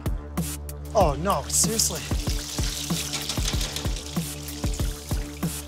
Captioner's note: banging, oil sizzling